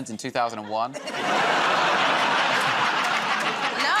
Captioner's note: laughter